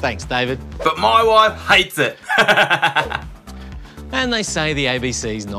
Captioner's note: laughs